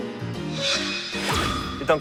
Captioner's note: swoosh